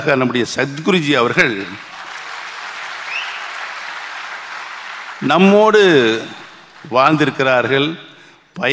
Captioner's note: applause